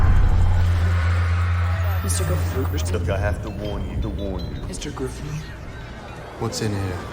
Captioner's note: echoing